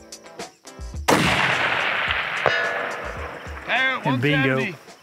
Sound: rifle firing

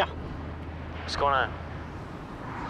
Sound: Josh, over the phone

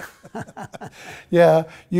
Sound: laughter

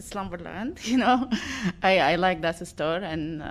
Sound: laughter

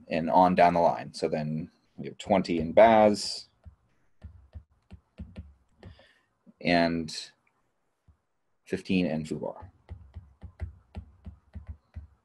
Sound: stylus thumping

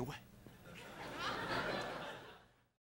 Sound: laughter in background

